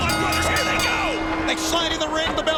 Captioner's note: bell rings